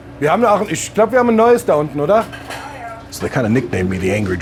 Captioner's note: speaking German, sounding gruff